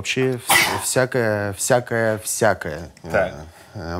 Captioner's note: Dud' sneezes again